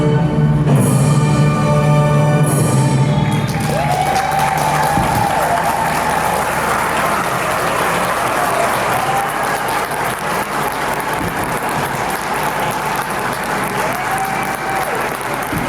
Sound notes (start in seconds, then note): 3.1 cheering and clapping